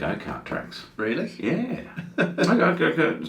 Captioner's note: laughs